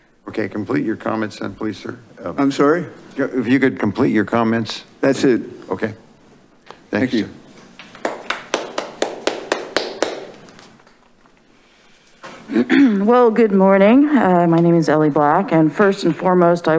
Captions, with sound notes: - Okay, complete your comments please, sir. - I'm sorry. - If you could complete your comments. - That's it. - Okay, thank you. (audience clapping) - Well, good morning. My name is Ellie Black, and first and foremost,